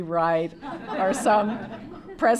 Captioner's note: laughter